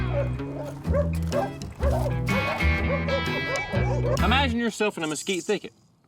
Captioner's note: dogs barking